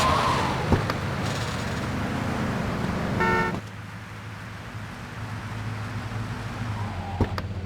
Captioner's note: tires screeching; car honking